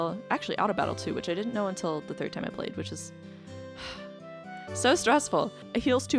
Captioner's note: sighs